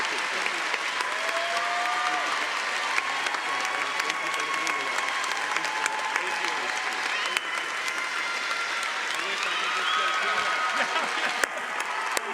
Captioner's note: cheering & Applause